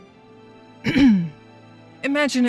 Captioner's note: ahem